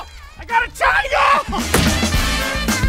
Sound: thud

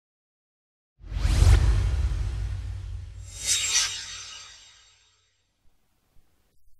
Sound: swoosh

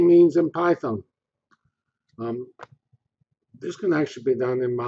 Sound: pause

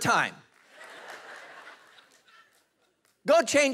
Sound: congregation laughing

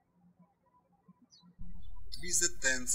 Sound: birds chirping

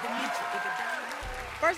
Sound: cheers and applause

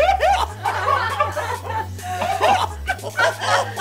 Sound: laughing

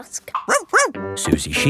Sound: barks

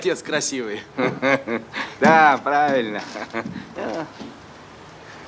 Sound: laughs

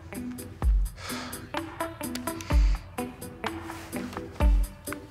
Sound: Brandon sighs

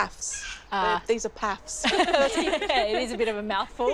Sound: laughs

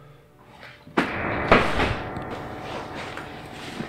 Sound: banging

